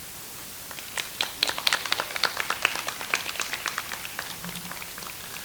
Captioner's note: audience applauds